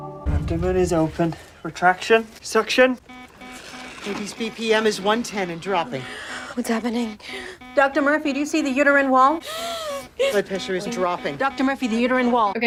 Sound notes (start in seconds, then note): 3.2 alarm beeping